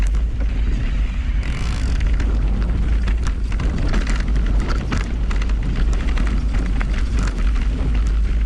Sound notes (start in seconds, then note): 1.4 bike ratchets